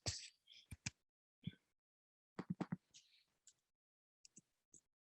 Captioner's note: mouse clicking